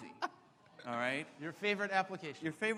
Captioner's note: laughs; audience oohs